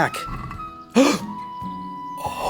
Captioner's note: gasp